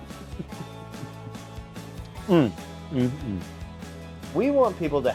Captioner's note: chuckles